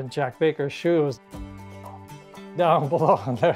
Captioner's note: laughs